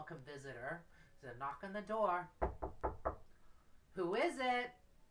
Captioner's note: knocking sound